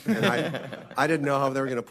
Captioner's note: audience laughs